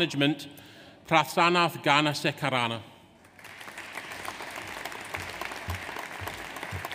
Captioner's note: audience applauds